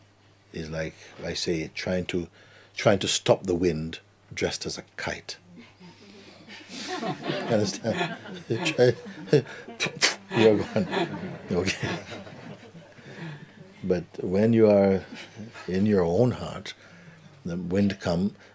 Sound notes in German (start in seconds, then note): 9.6 imitiert Windböen